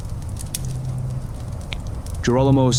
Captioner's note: gunfire